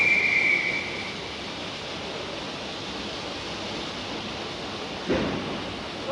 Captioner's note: train releases steam